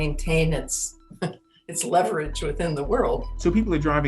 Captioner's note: laughs